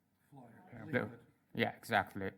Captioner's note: speaks in Russian; voiceover